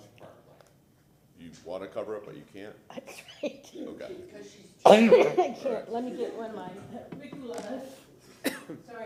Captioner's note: coughing